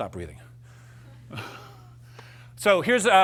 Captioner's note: laughter